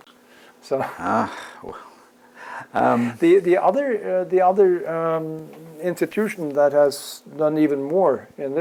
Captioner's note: laugh